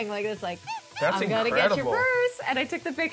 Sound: monkey squeaking

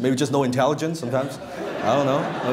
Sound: laughter

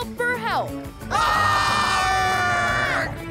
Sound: screaming

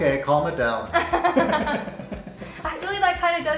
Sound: laughter

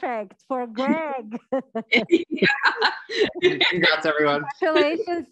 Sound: laughing

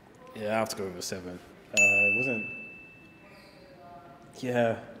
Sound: bell ding

